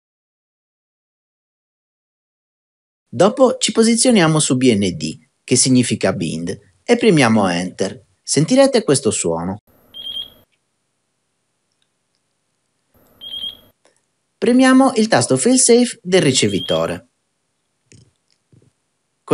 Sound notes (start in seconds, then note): 9.9 beep; 13.1 beep